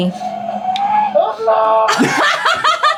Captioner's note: police screaming; team laughing